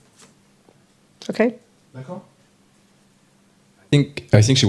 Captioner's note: audience member speaks in French